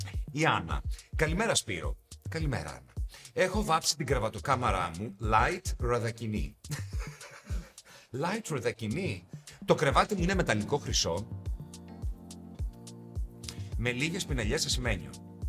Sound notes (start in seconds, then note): 6.7 laughs